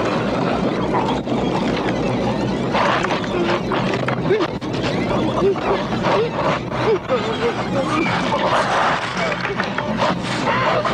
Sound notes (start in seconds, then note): 2.8 sobbing; 5.9 moaning; 7.6 groaning